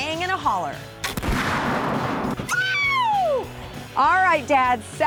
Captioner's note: gunshot; yells